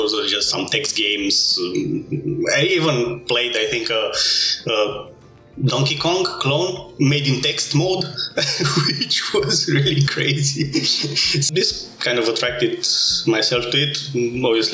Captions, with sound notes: There were just some text games. I even think I played a Donkey Kong clone made in text mode. which was really crazy. *laughs* This attracted me to it mostly